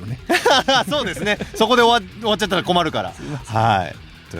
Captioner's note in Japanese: 笑い